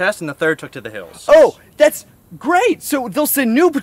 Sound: sarcasm

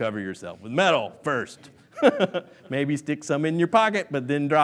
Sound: laughs

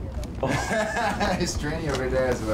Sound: laughing

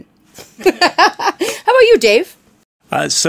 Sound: laughs

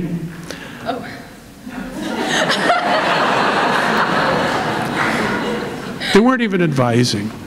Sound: laughter

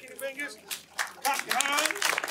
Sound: hands clapping

